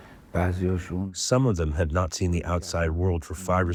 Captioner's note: through translator